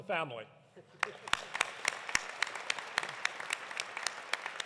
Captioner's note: audience applauding